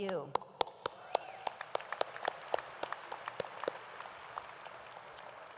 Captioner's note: audience applauds